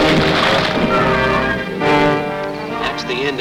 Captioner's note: punch slams; rocks crumble